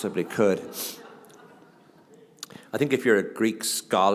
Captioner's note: laughter